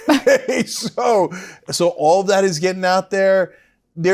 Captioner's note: laugh